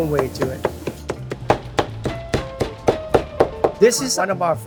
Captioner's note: knife chopping